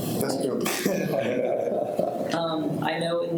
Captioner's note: people laughing